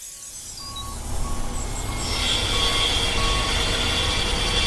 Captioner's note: spray paint hissing; truck beeping; jackhammering